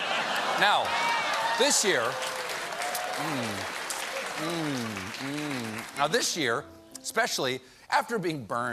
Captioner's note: laughter; applause